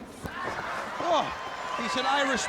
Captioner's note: microphone thudding